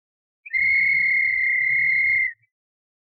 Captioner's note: whistle blows